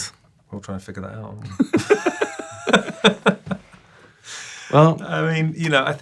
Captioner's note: both laughing